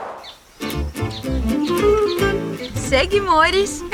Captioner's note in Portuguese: Pássaros